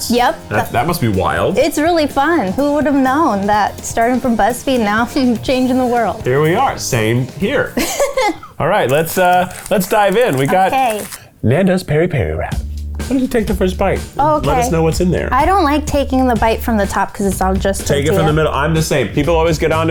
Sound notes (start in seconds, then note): 7.7 laughs; 14.6 upbeat music